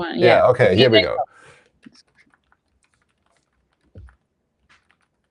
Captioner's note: typing